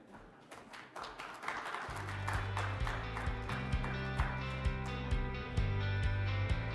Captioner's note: audience applauding; bright music